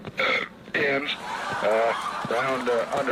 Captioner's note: audience laughs